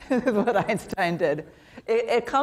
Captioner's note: laughs